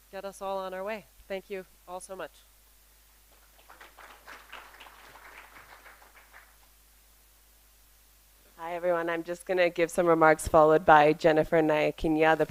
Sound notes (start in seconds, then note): 3.3 applause